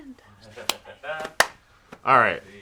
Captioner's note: claps